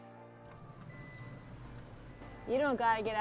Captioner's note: beeping